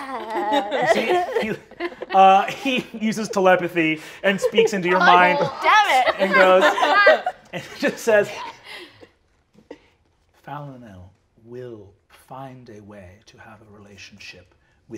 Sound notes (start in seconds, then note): 0.8 players laughing